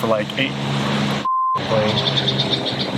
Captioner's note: beep; airplane motor revving